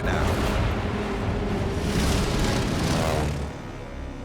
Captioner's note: plane engines whining